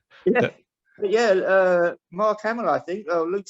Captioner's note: laugh